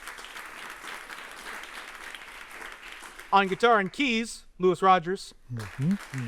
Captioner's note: applause